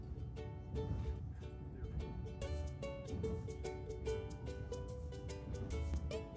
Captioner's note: high-speed train